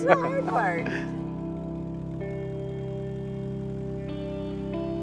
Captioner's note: gentle guitar music; plane engine roaring